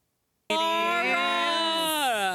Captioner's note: crowd talking